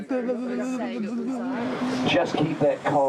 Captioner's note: shivering